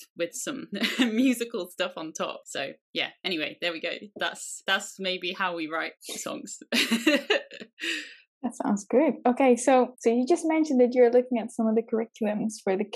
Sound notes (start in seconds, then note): 6.6 laughs